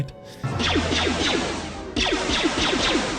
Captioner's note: gunshots